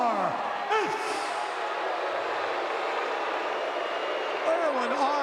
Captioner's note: audience booing